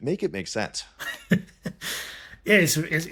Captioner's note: laughing